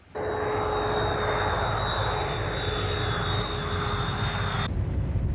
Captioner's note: plane engine roaring